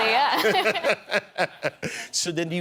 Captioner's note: laughter